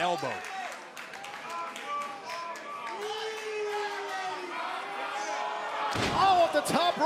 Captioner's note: crowd cheering